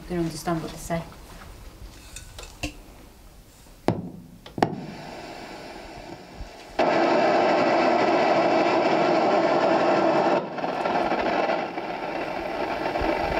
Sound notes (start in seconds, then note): 4.7 static buzzing